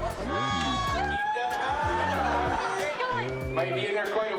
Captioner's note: guests cheering